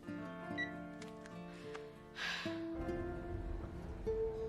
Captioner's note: menghela napas